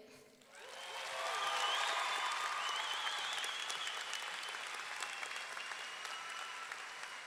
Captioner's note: audience clapping; audience cheering